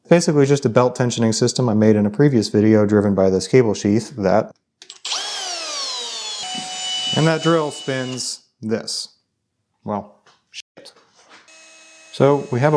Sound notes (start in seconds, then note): 4.8 drill whirring; 11.5 machinery whirring